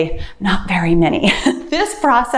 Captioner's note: laughs